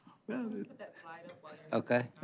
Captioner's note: indistinct chatter